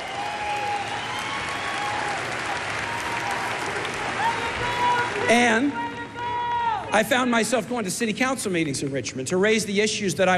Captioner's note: cheers and applause